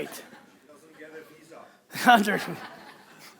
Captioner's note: chuckles; audience laughing